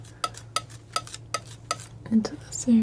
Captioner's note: scraping